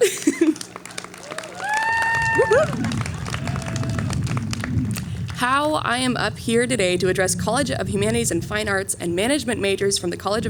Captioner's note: cheering